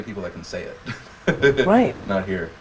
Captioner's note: giggles